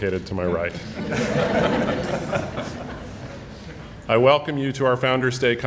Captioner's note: audience laughing